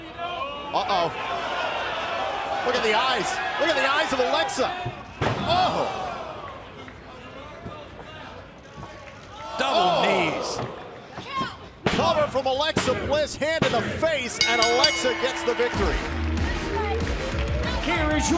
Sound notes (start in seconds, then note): 14.4 bell ringing